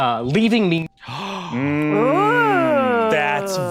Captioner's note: shocked gasp